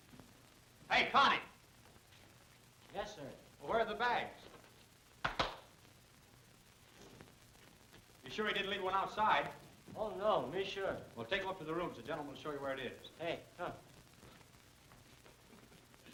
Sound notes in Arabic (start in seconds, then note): 5.2 تصفيق